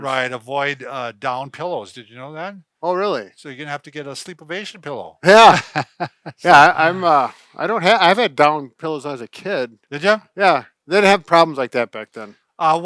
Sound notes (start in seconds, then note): 5.2 laughing